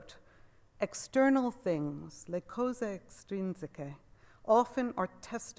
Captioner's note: speaks Italian words